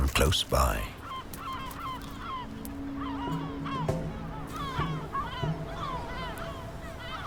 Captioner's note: gulls cawing; light dramatic music